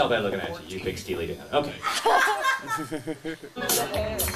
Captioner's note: laughing; upbeat music